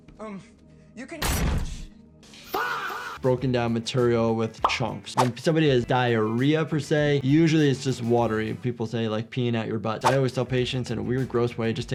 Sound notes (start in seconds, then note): 1.2 door slams